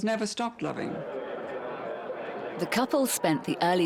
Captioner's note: people chattering